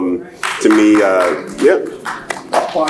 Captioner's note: applauds